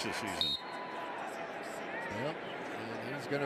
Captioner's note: whistle